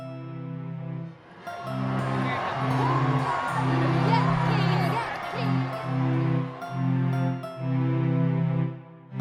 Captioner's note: crowd cheering, chanting